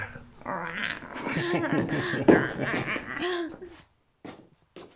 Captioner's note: chuckles